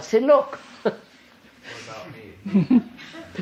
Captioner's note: laughs